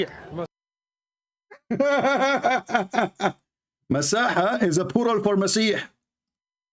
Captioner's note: Ketawa